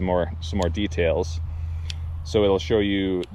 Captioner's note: button clicking